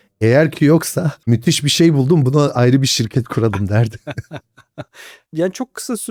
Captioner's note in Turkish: kahkaha